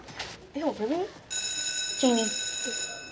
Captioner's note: bell rings